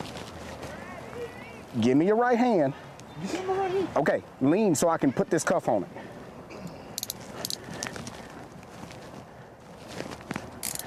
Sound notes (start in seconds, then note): 6.9 cuffs clanking